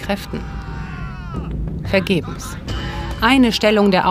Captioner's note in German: Dumpfe Schreie